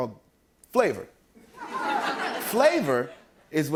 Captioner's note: laughter